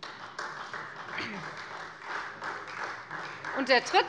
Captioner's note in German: Beifall Freie Demokraten